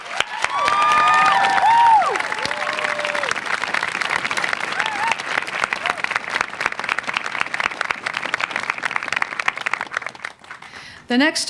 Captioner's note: applause